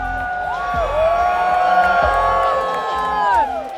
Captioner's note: crowd cheers